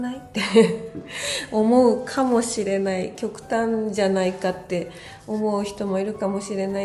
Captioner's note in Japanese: 笑い